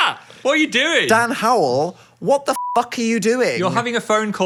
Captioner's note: beep